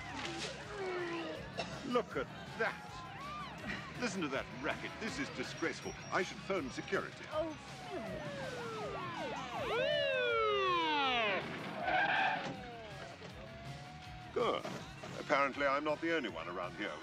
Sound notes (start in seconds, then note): 0.3 retching; 7.0 sirens wailing; 11.2 brakes screech